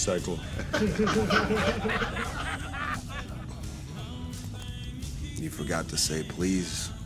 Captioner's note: laughter